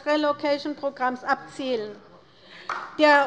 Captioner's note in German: Beifall bei der LINKEN